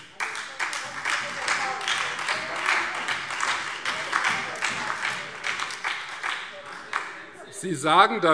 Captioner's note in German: Beifall Freie Demokraten und SPD